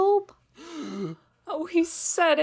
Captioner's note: mom and Dad gasp again